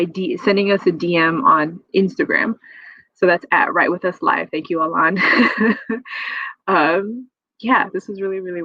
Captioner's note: laughs